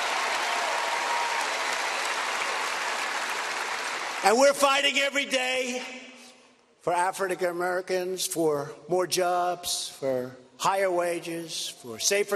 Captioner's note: applause